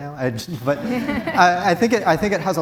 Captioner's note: audience Laughing